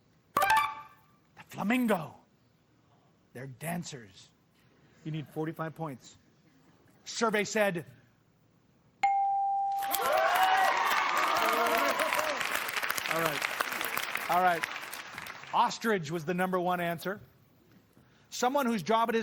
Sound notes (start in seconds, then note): 9.8 cheers and applause